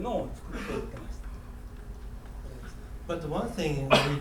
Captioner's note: coughing